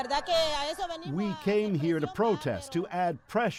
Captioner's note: speaking spanish